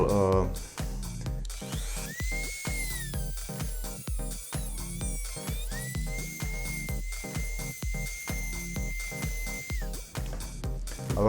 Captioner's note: high speed motor sound